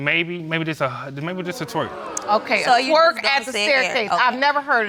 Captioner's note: audience laughing